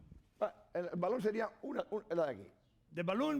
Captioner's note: speaking spanish